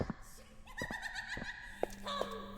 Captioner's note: giggling